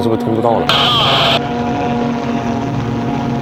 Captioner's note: wind noise too loud to hear